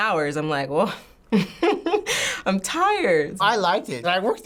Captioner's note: laughs